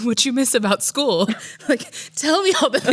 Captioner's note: laughs